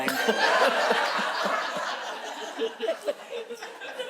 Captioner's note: all chuckles